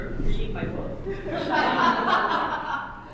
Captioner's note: laughter